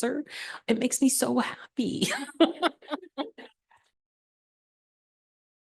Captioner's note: laughing